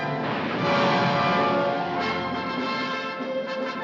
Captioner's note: bomb exploding; triumphant music